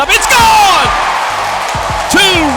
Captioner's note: crowd cheers